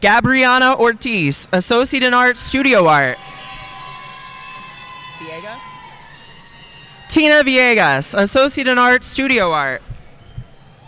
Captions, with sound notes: Gabrianna Ortiz, associate of arts, studio art. (audience cheering and applauding) TEE-EH-RUH VEE-EH-GAHS, associate of arts, studio art.